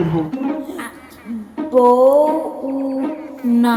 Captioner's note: Hebrew language